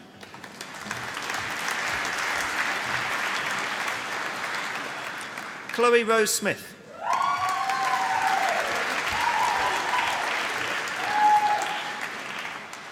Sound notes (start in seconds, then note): 0.0 applause